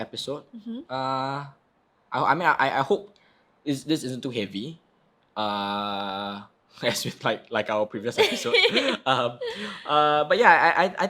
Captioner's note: laughing